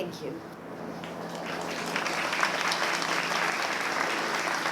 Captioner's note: applause